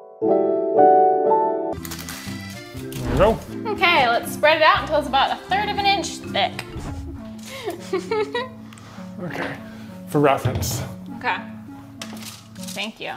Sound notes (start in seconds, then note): 2.1 lighthearted music; 7.4 laughs